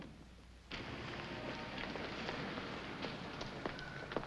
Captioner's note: none